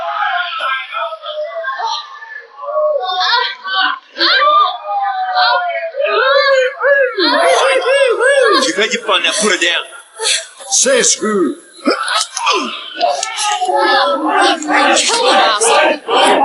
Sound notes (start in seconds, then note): 3.9 woman yells; 7.1 man cheering; 12.2 grunting